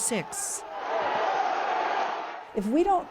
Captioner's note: crowd yelling